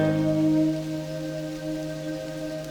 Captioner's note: chuckling